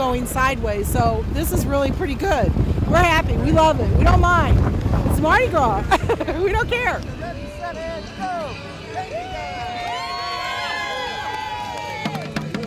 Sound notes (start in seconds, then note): 5.8 laughs; 10.0 crowd cheering